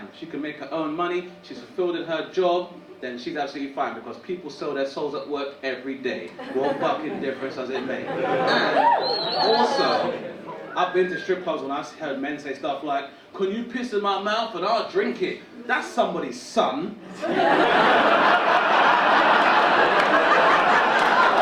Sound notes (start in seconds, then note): 8.1 audience cheering; 17.0 audience laughing